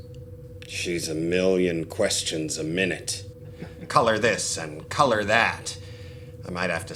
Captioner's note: laughter